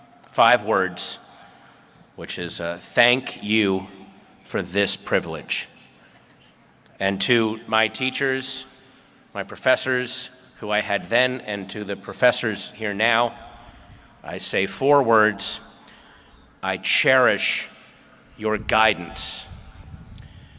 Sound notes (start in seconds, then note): none